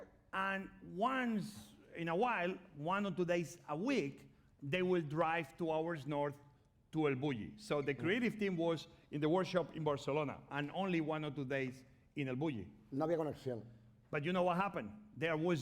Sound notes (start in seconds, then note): 13.1 speaking spanish